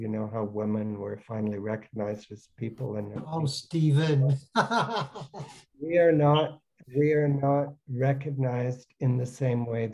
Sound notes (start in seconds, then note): 4.5 laughs